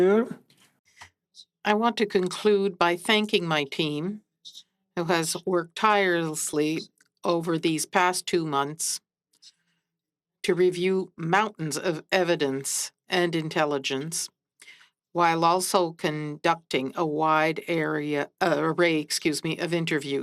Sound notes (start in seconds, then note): 7.1 speaking French